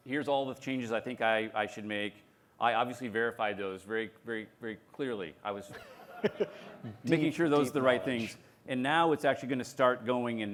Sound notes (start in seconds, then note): 5.7 laughter